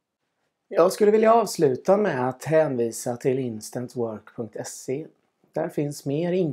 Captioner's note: only in swedish